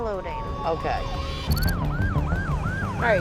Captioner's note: ambulance sirens